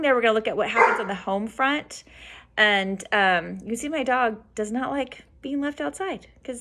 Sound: dog barking

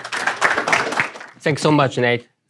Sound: applause

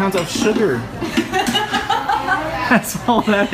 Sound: laughing

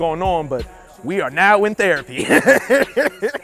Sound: laughter

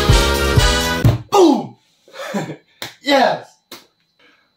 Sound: slap

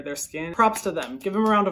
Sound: claps

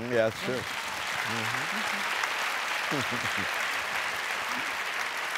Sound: applause

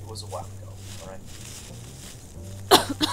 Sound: coughs

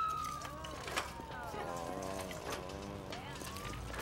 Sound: sirens blaring; groaning

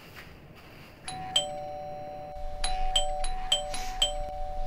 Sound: doorbell rings

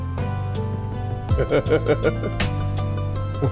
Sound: laughs

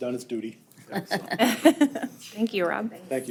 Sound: group laughing

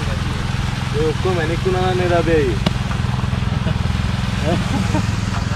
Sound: laughing

